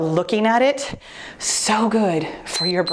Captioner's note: timer beeps